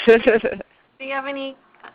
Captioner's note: laughter